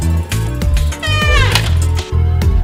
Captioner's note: squeaky door closing